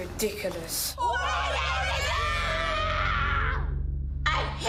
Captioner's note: shouting